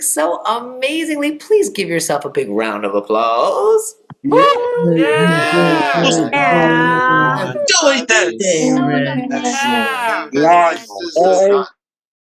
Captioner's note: applause